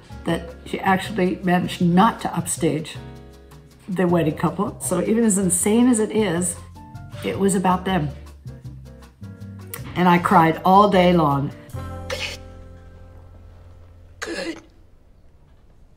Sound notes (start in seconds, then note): 11.8 Moira gasps